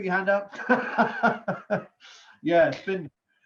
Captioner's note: laughs